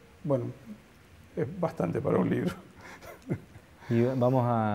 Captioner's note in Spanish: risas